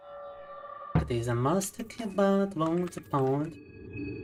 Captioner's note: speaking in Russian